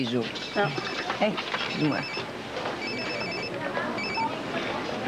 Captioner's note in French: Le téléphone sonne